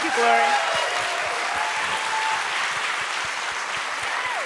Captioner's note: applause, cheers